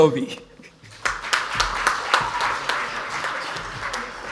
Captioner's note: audience applauds